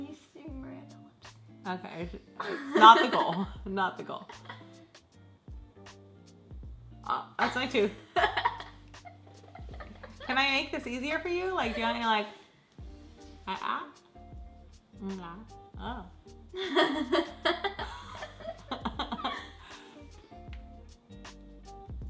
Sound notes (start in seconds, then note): 5.3 soft electronic music; 8.9 laughs; 16.6 laughs; 18.7 soft electronic music